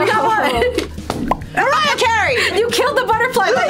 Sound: slams table

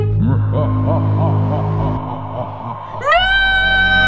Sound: evil laughing

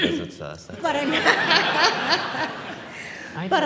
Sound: laughter

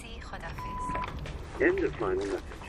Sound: message beep

